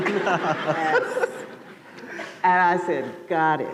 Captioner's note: laughter